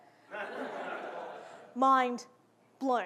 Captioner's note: audience laughing